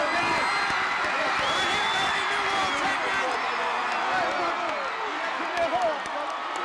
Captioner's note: audience cheering